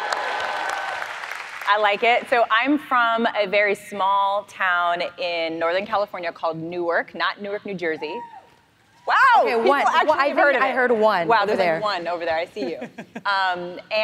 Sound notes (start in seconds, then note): 0.0 clapping and cheering; 8.7 audience scream